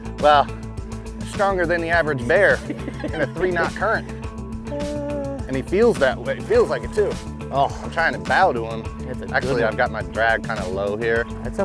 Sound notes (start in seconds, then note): 2.6 chuckles